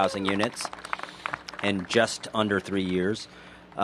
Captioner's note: applause